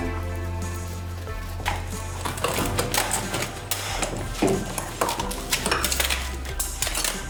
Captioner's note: music, metal clangs, and scissors cutting